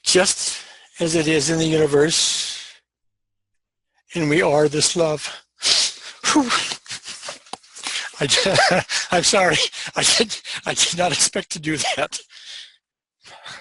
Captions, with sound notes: "Just as it is in the universe. "And we are this love." (cries) I'm sorry, I did not expect to do that.